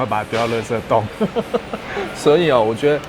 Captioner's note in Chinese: 笑聲